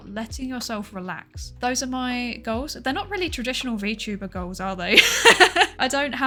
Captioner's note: laughs